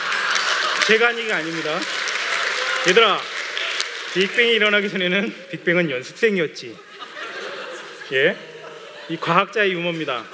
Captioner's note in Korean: 웃음